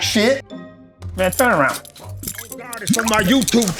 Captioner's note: handcuffs clinking